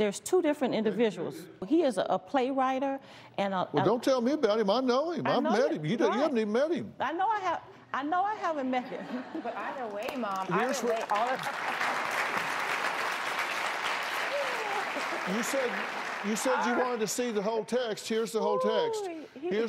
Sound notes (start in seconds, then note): 14.1 cheers and applause